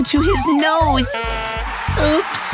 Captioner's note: cheering; honking